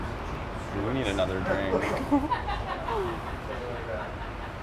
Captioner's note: laughs